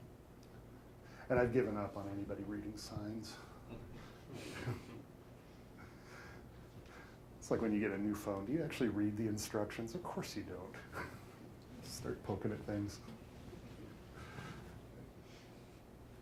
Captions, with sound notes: And I've given up on anybody reading signs. (all chuckling) It's like when you get a new phone, do you actually read the instructions? Of course you don't (chuckles). Just start pokin' at things.